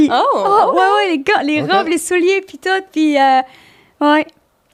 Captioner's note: in french